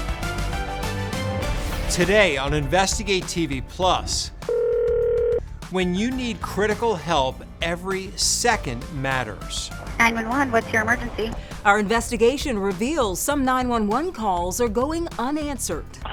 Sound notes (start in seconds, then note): 0.0 dramatic music; 4.4 phone ringing